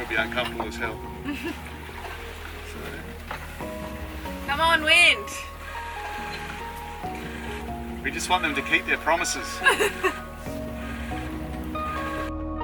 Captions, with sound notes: - And we'd be uncomfortable as hell. (laughs) - Come on, wind. - We just want them to keep their promises. (laughs loudly)